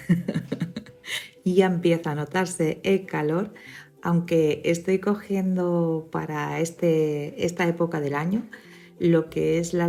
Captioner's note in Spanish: risas